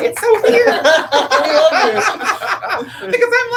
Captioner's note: all laugh